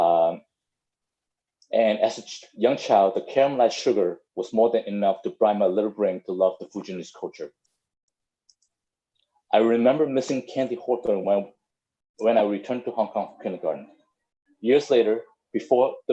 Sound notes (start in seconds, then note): none